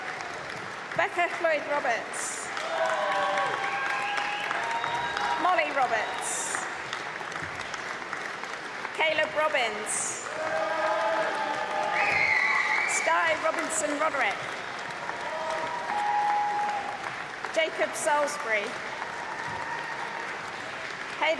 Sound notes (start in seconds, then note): 3.0 applause and cheering; 11.3 cheering; 16.2 applause